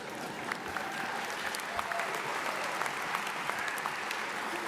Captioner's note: audience applauds